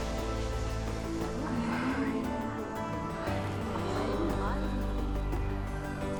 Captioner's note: indistinct chatter